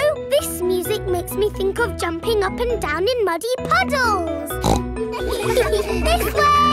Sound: snorts; giggles

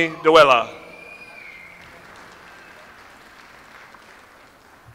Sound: audience applauds

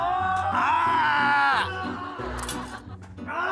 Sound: groaning!

